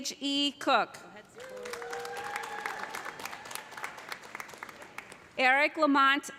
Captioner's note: audience applauding; audience cheering